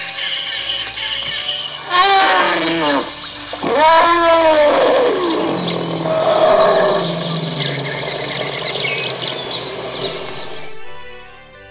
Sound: elephant sound effect

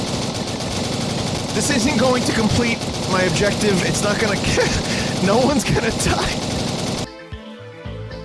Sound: laughing

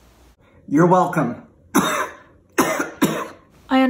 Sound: coughs

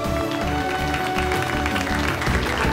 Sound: clapping

